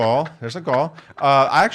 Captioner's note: laughs